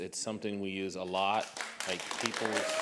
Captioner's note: applause